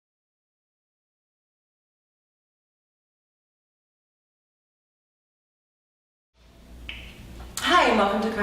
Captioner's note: silence